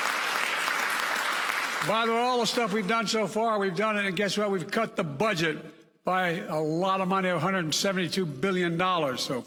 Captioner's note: applause